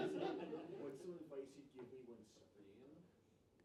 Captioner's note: laughing